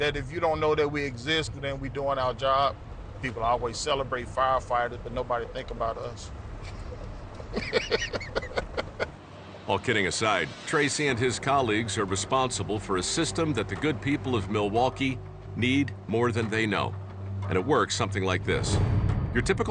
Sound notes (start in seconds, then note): 6.6 laughs